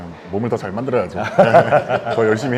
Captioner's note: happy chuckle